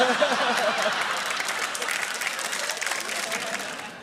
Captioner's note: laughter; applause